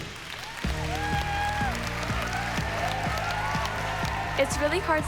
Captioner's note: applause